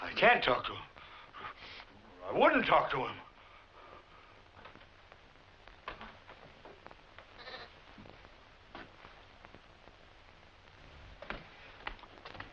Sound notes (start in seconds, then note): 7.3 bleating